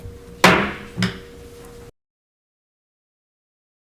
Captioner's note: gavel bangs